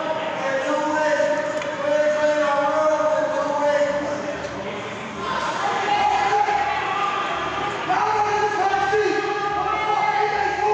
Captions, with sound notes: in two weeks. Please clean my room, in two weeks. (inmates yelling indistinctly)